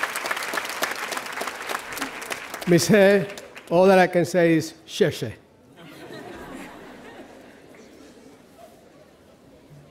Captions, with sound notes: - Ms. He., all that I can say is (speaking in foreign language)